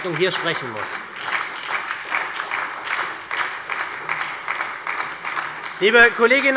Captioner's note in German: Beifall bei der SPD